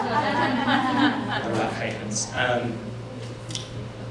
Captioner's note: laughter